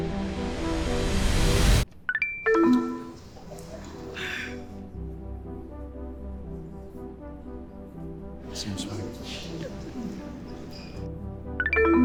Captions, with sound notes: (electronics ring) (electronics beep) (gentle music) - Same sweater. (gentle music)